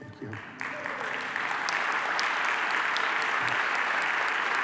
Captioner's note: applause